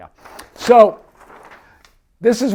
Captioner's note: paper rustles